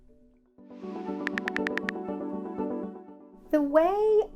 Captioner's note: keyboard clicks